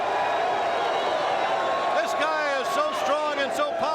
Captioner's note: crowd cheering